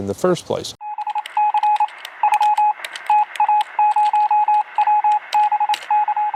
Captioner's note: keyboard typing; morse code beeping